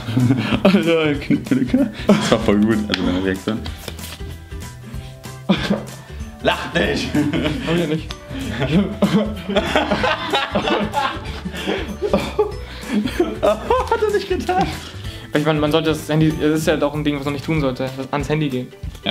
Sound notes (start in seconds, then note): 8.3 both start laughing